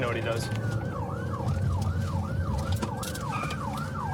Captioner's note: siren wailing